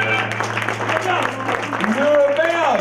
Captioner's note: audience applause